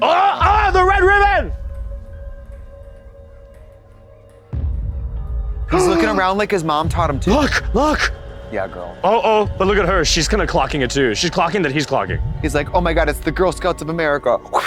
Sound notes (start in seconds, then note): 1.3 suspenseful music; 5.7 gasps